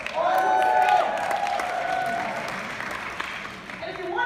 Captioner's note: clapping